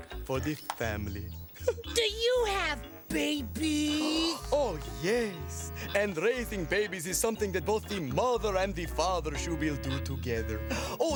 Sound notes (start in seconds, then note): 3.9 gasps